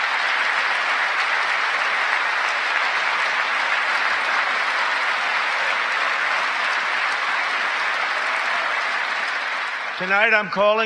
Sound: applause

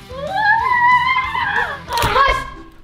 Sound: yells

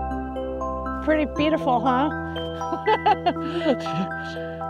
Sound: laughs

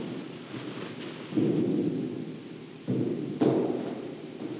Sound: banging metal noise

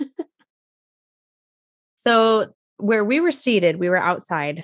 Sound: laughs

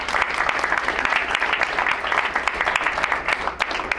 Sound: crowd applauds

